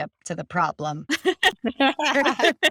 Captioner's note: all laughing